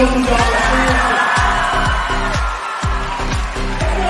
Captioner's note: cheering